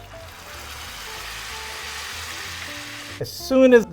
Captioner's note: season sizzling